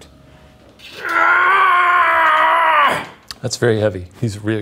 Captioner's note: groans